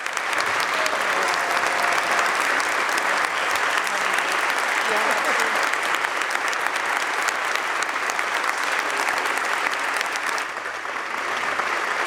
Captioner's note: applause